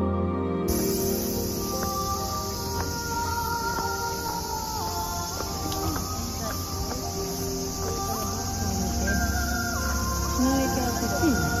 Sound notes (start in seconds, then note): 8.7 tornado